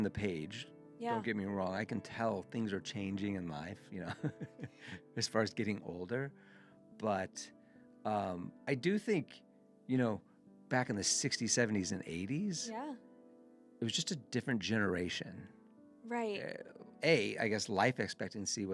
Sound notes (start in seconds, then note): 4.0 laughs